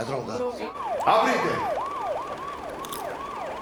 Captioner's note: police sirens in background